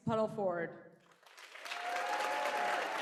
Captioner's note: applause